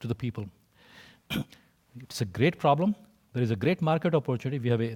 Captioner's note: cough